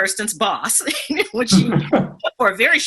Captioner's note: laughs